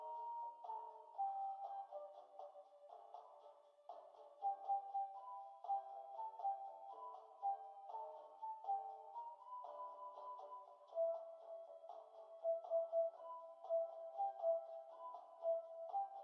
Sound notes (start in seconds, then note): none